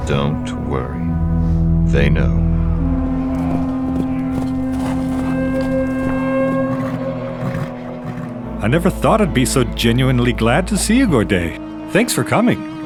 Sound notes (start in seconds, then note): 3.3 hooves clop; 3.3 distant yelling